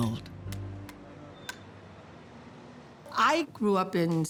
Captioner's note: sticks clacking